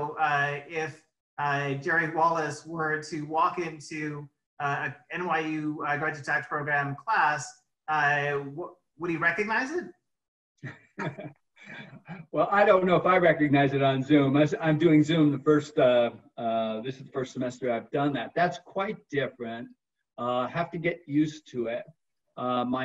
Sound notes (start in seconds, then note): 10.9 laughs